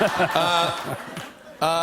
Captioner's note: laughter